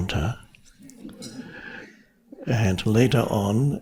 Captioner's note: audience laughing